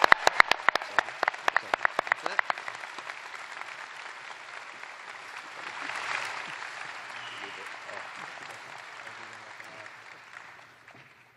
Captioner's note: applause